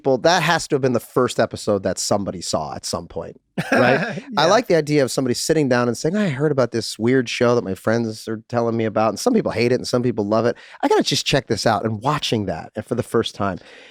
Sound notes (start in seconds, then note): 3.6 Charlie laughing amusingly